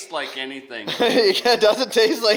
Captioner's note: laughing